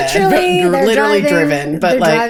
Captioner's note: both laughing